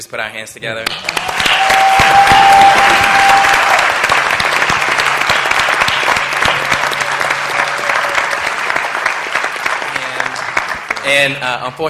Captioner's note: applause